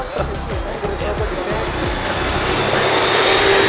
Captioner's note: car whirring